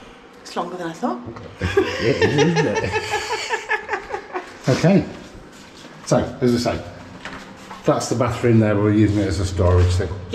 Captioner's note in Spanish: Risas